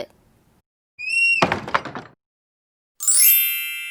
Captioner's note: cupboard door swings shut